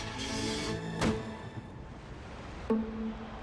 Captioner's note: footsteps